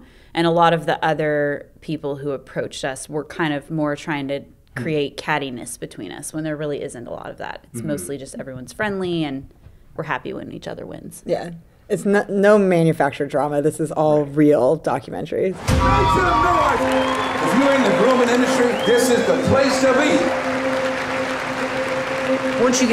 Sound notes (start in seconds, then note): 15.6 cheering; 21.7 applause